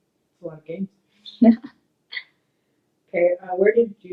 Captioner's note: laughs